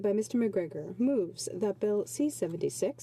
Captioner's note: speaking French